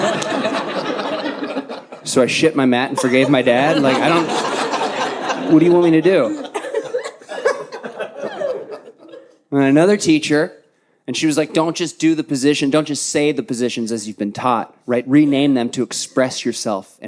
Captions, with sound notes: (audience laughs) So I shit my mat and forgave my dad. Like, I don't, what do you want me to do? And another teacher, and she was like, "Don't just do the position. Don't just say the positions as you've been taught. Rename them to express yourself